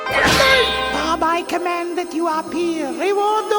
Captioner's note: crashing